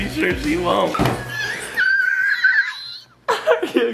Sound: squealing

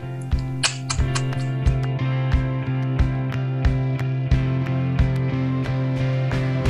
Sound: relaxed music; kissing

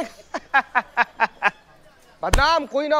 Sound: laughing

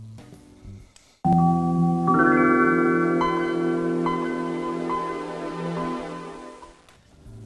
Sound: chime plays

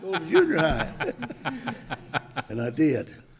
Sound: group chuckles

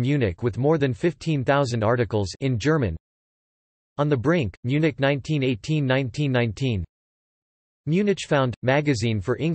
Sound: in German

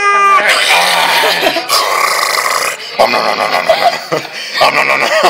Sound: spider eating noises; laughter

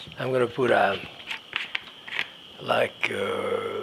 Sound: lid rustling

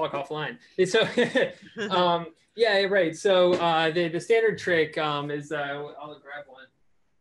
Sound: laughter

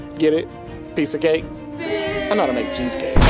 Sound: crowd

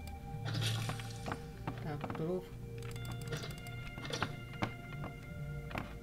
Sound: clicks; clicks

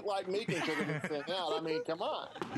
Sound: laughter

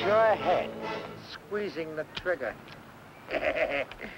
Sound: gun clicking; Malamos chuckling

